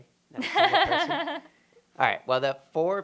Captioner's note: laughter